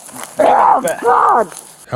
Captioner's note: screaming